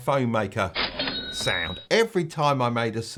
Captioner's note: cash register dings